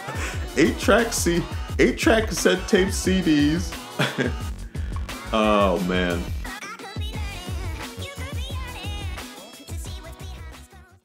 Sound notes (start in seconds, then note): 3.8 laughs